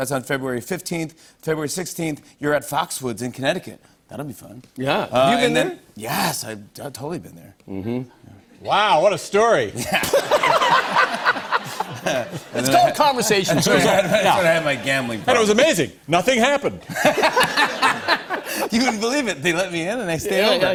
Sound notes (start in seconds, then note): 9.8 laughter; 16.8 laughter